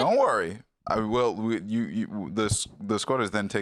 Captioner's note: stammering